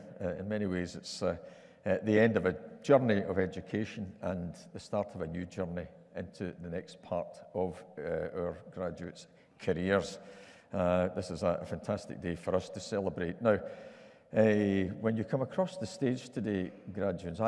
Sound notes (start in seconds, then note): none